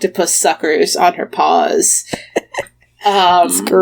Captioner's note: laughs